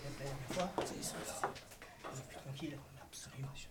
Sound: whispers

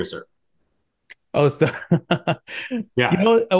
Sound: laughing

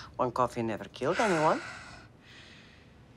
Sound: exhales

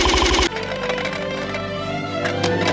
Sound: pot Rattling

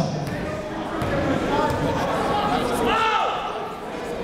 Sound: chatter

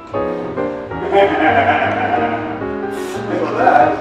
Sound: laughter

